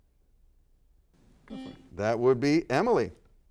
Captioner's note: buzzer sounds